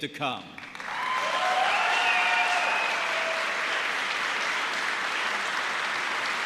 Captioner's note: applause